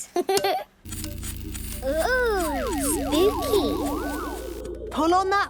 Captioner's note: pulsing